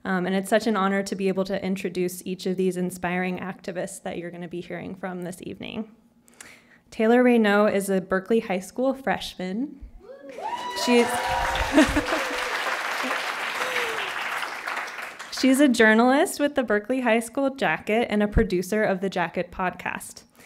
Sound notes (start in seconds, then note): 10.0 cheering and applause